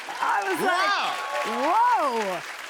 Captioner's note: cheers and applause